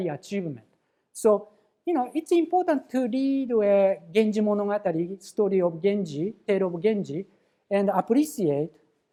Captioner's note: japanese